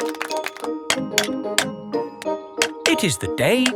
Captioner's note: clanking